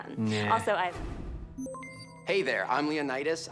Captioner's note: system beeps